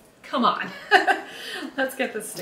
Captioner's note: laughs